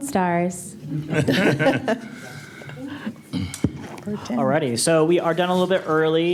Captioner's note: laughter